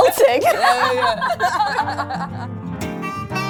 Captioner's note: laughs; blues music